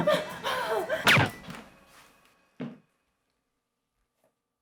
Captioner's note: gun shots